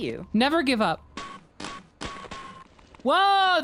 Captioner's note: rhythmic clanking